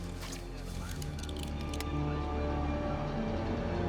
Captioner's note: seatbelt clicks; muffled chatter